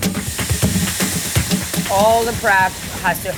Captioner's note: food sizzles; upbeat music